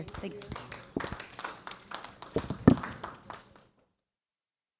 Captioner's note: audience applauding